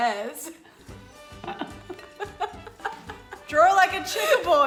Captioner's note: both laughing